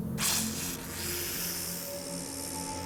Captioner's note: hissing